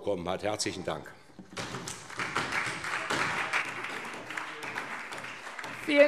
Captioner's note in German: Beifall SPD